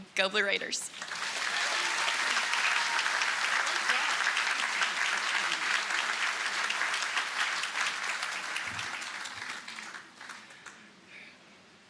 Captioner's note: applause